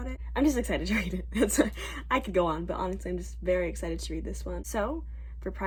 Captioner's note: laughing